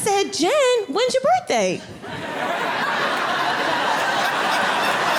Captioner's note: audience laughing